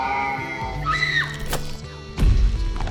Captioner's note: screams